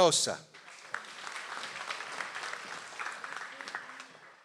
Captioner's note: audience applauds